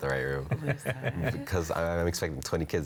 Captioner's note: laughs